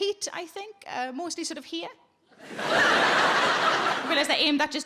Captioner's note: audience laughs